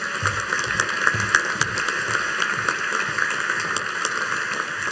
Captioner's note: audience applauding